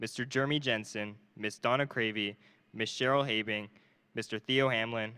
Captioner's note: none